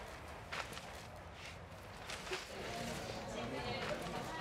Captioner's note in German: Stimmen